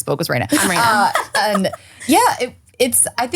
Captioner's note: laughs